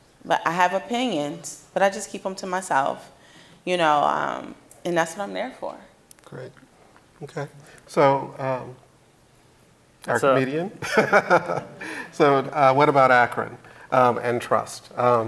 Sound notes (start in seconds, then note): 10.8 laughing